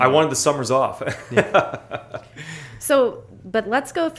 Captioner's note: chuckles